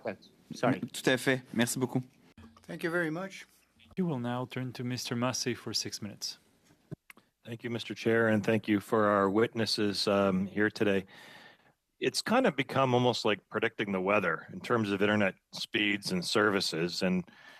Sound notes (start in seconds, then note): 4.9 speaking French